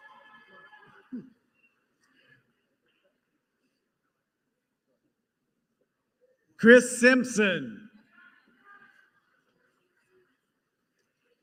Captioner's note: applause